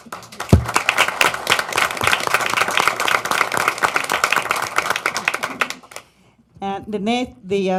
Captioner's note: applause